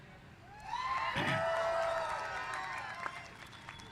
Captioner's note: cheers